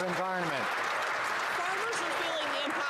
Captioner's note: some Applause